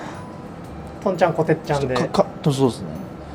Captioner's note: laughs